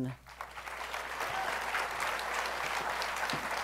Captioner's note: applause